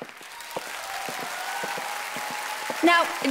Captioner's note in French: Applaudissements du public